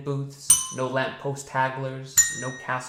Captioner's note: bell dings